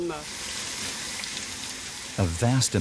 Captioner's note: men speaking in foreign language; water pouring